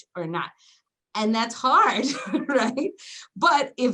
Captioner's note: giggles